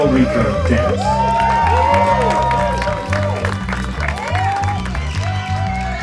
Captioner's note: guests cheering